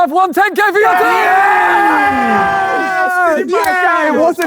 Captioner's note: group cheering